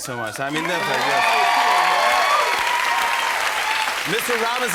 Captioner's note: cheers and applause